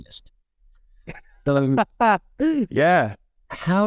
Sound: laughing

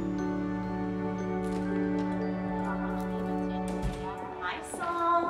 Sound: door opens and closes

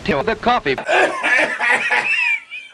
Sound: Tourettes Guy coughing rather violently

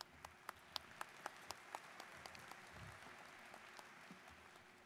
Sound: students applauding

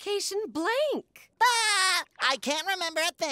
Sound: laughing

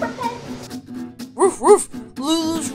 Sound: Krypton barking

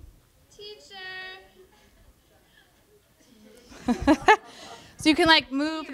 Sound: laughter

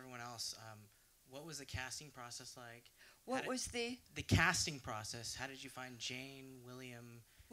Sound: audience member, louder

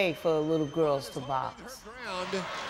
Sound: crowd cheering

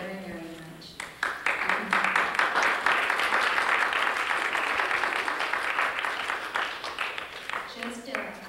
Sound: applause

